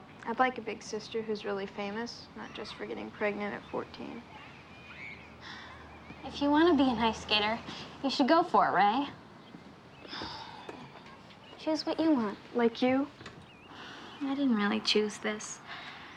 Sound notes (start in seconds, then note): 10.0 sighs